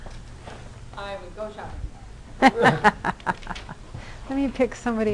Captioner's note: laughter